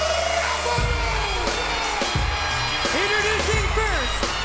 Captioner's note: audience cheers